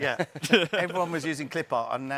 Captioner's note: hosts laughing